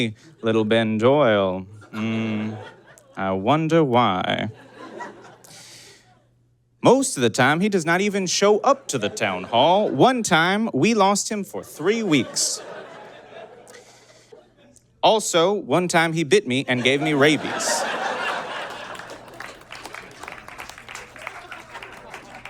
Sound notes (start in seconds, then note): 11.6 audience laughs wearily; 16.8 audience laughs heartily and applauds